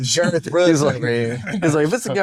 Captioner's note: laughs